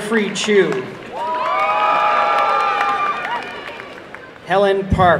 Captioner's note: applause and cheering